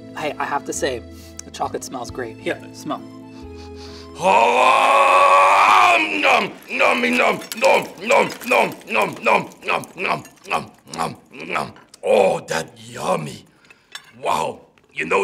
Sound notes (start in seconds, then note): 3.4 Cookie Monster sniffs; 4.1 yells